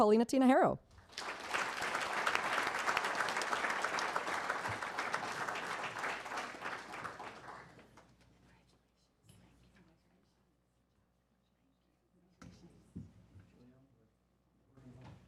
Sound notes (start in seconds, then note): 4.3 applause